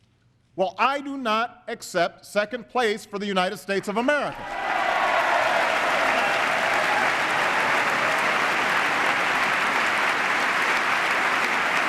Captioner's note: applause